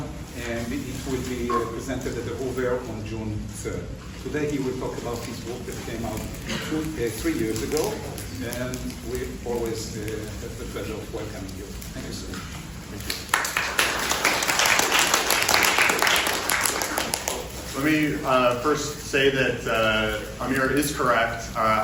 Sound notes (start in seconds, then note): 13.0 applause